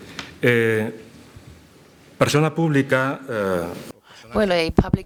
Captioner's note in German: spanisch